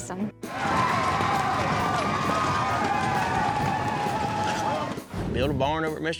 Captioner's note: flashback, cheering